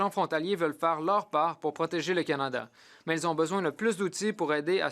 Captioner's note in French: voix de l'interprète